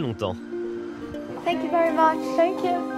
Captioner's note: in English